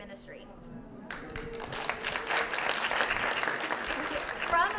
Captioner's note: applause